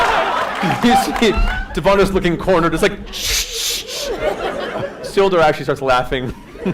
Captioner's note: laughter; shushing noises